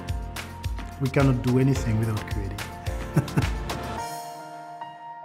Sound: laughs

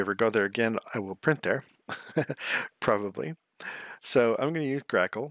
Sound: laughs

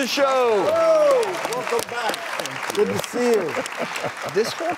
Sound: crowd cheers

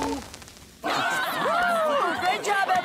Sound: laughing

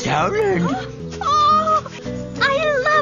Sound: sniffing; another vocalization of joy

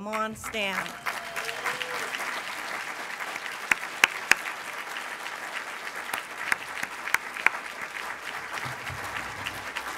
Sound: applause from audience

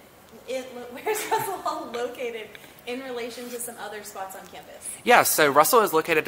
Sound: laughs

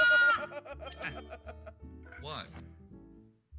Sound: laugh

